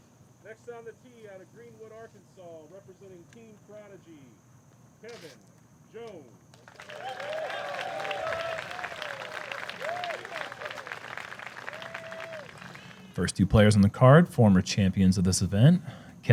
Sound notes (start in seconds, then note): 6.5 applause